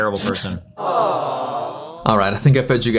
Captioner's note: audience "aw" sound